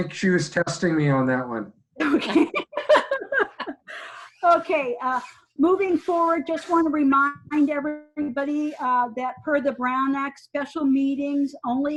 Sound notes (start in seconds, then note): 2.0 speakers laughing